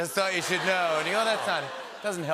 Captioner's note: laughter